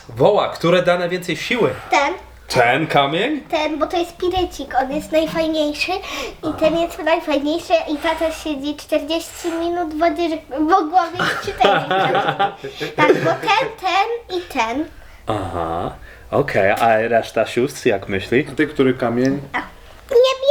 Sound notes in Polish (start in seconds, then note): 11.1 śmiech